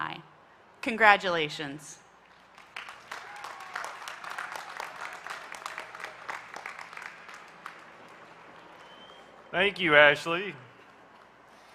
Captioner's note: applause